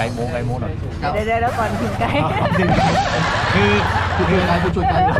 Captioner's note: laugh